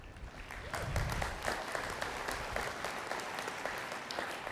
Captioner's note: attendees clapping